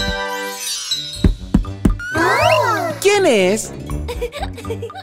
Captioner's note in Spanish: Golpes; Risas